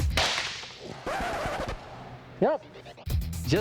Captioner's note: record scratch